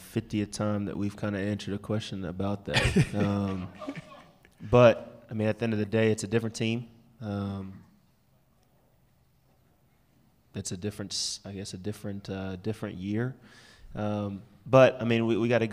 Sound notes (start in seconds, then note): 5.9 laughter